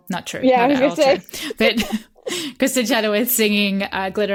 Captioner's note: laughter